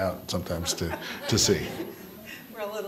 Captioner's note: all laughing